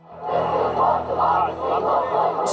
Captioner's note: crowd chanting